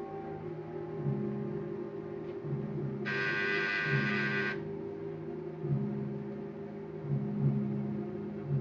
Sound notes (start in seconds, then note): 3.0 doorbell buzzes